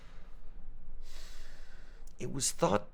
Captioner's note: director sighs